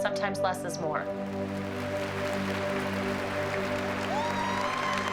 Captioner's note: applause and cheering